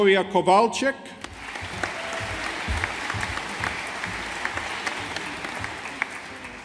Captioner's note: audience applauding